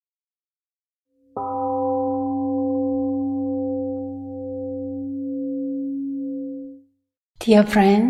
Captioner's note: temple gong rings and fades